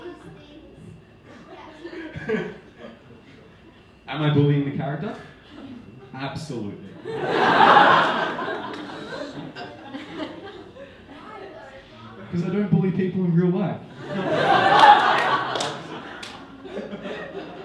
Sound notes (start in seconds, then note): 1.8 speech muffled by laughing; 7.0 audience laughing; 13.9 audience laughing